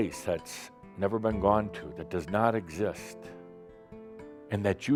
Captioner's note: none